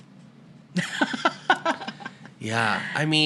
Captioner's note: laughter